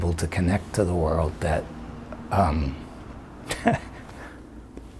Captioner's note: laughs